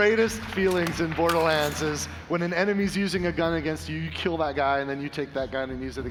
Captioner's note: applause